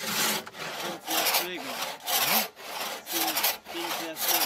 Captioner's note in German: Leise Gesprächsfetzen